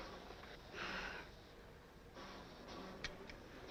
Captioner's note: sighing